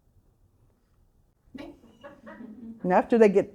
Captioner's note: audience chuckling